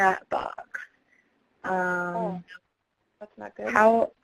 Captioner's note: voiceover